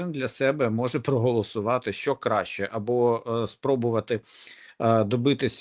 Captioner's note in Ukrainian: сопіння